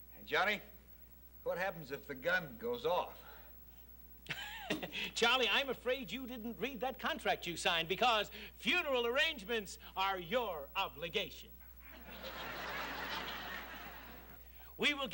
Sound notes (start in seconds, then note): 4.2 laughs; 11.8 audience chuckles